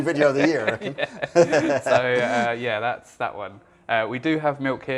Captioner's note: laughs